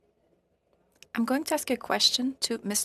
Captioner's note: speaking French